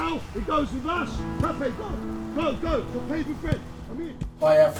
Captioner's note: indistinct chatter